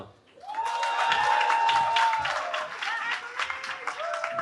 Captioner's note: cheering